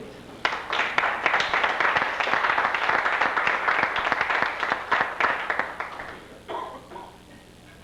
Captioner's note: applause